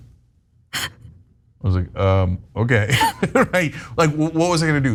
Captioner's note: laugh